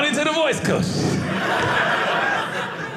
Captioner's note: audience laughing